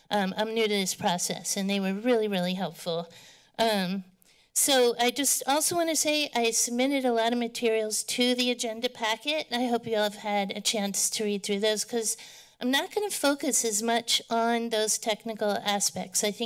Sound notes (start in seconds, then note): none